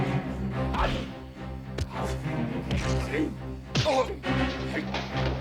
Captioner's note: punches thud; attacker grunts; punches thud